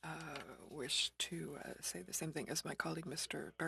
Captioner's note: speaking french